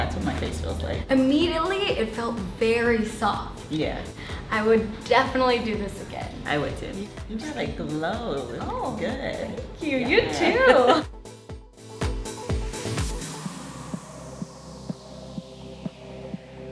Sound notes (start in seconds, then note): 10.0 laughs; 12.1 chill music